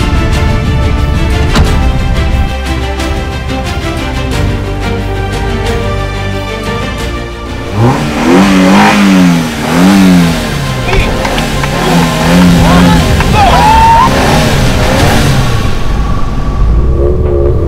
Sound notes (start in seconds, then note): 7.8 engines revving